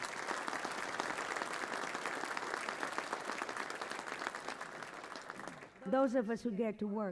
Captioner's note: applause